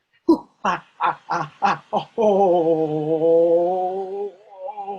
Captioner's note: makes sound of catching- ooo, ah, ah, ooooooh!